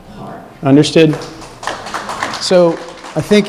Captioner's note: applause